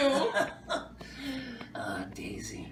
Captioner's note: laughing